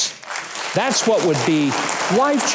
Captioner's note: audience applauds